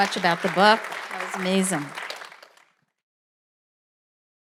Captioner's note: audience applauds